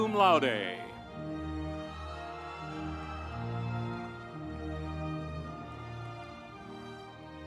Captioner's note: audience cheering